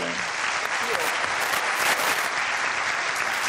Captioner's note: applause